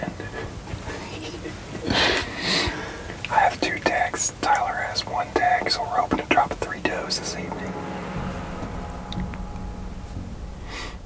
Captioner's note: whispering